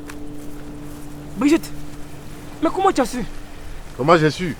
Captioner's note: distant water flowing